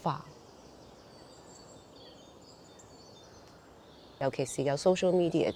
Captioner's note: birds chirping